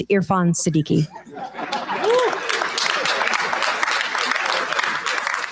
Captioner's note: cheers, applause